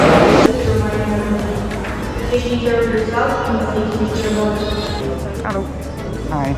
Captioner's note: announcement in foreign language